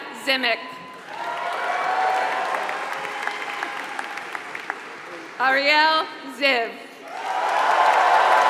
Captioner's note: applause; applause